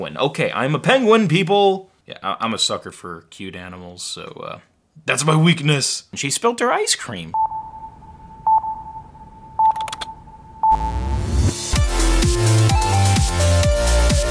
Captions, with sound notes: Okay, I'm a penguin people. Yeah, I'm a sucker for cute animals. So uh, that's my weakness. She spilled her ice cream. (beeping) (typing) (buzzing) (upbeat music)